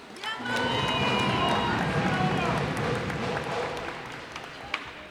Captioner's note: cheers and applause